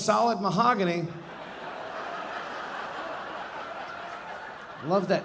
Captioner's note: audience laughing